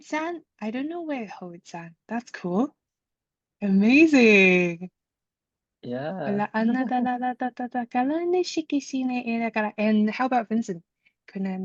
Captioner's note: light language